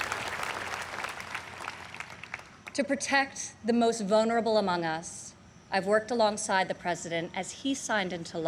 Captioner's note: applause